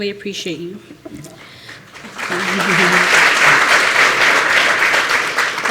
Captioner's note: applause